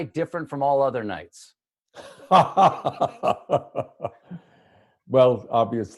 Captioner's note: laughter